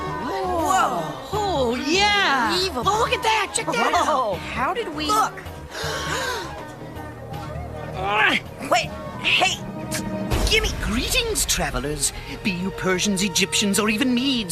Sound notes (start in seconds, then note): 8.0 grunting